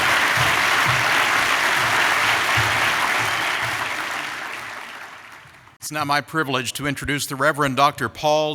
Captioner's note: applause